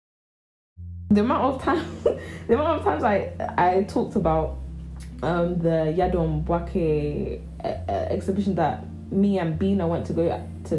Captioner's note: heehee